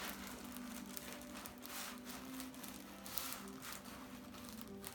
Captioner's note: paper crinkling